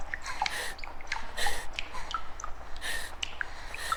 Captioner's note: Elara whimpers in fear